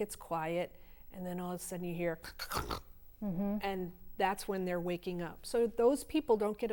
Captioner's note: �snoring sound